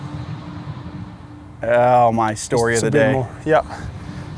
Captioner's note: speaks Spanish